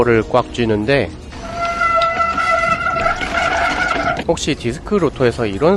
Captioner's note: Squealing sound